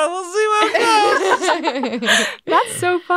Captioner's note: all laughing